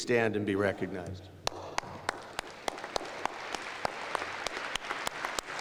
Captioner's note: applause